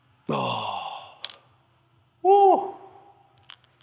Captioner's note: exhales